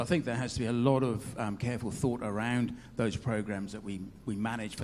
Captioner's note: none